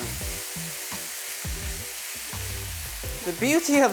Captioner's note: sizzling sound